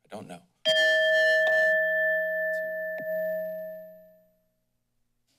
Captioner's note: bell rings